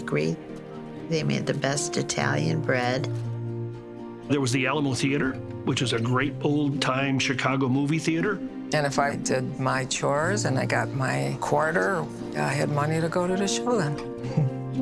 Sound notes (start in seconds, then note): 14.2 laughs